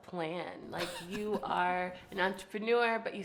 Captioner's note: laughing